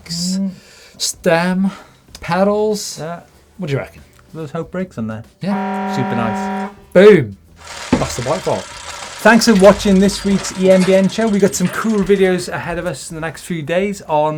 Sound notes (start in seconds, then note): 5.4 klaxon sound